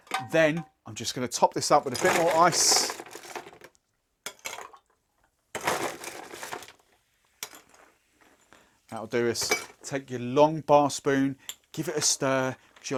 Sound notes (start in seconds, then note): 1.7 ice cubes clinking